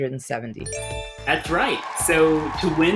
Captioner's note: chime rings; crowd cheers